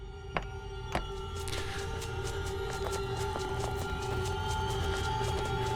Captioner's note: running sound